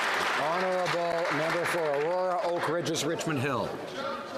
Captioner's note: some Applause